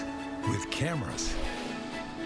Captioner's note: whale blowing